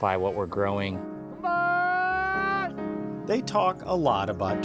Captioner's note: yelling